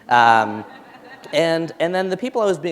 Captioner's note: laughter